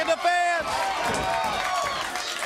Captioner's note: crowd cheering